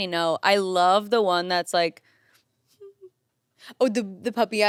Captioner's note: whimpers